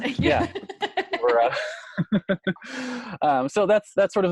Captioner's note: laughs